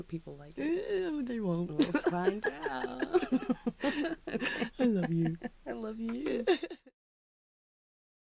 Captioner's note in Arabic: يضحك